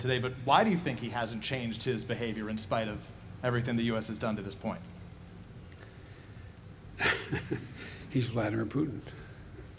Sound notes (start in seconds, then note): 7.0 laughs